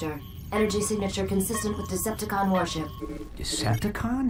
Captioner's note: radar sounding